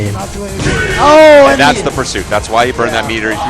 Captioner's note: game SFX